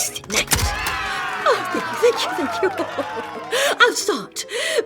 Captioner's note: applause